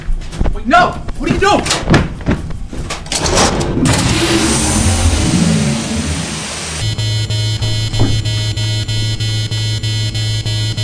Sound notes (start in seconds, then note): 3.5 airlock door opens; 7.2 ship system beeping